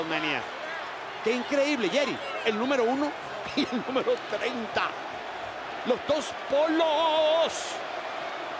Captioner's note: laugh